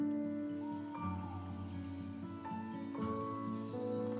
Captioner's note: birds chirping